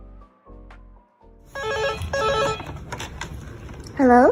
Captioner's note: hotel Phone Ringing